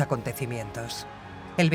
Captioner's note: crowd cheering